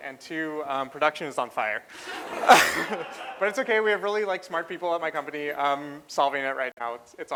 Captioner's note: laughter